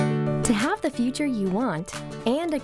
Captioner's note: voiceover